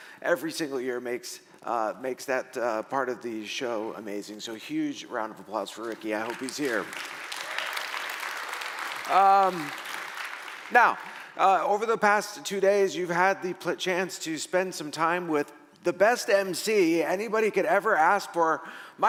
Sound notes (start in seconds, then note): 6.2 audience applauding